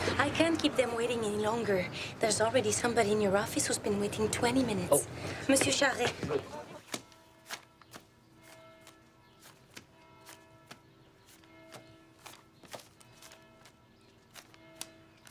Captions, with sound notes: - I can't keep them waiting any longer. There's already somebody in your office who's been waiting 20 minutes. - Oh. - Mr. Charest. (bell ringing)